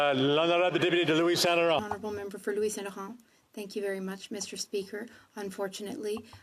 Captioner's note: speaking French